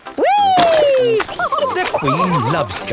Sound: all laughing

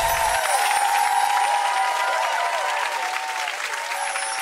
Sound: audience applauding, cheering, upbeat music; twinkling

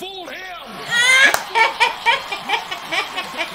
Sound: laughs

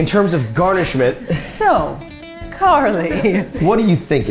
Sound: laughing

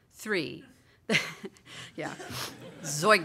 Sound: laughter

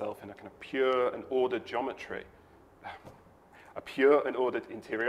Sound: chuckles

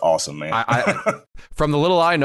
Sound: laughs

